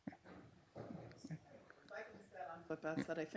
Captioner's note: softly talks off mic